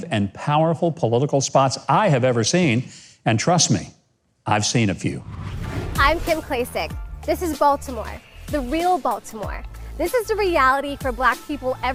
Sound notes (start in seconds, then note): 5.0 air whooshing